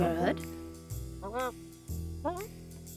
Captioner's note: mutters